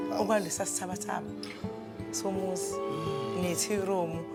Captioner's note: none